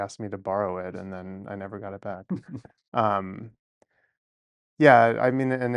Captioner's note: laughs